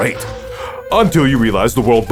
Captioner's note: breathes in